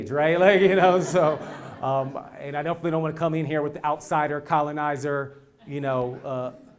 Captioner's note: laugh